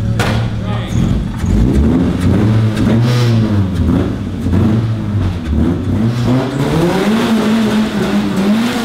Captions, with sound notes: - There you go. (engine revving)